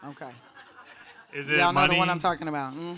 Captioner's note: audience laughs